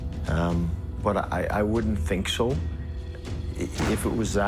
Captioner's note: gun firing